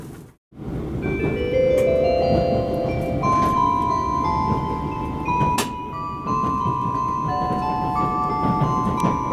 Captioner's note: Wide view chime is playing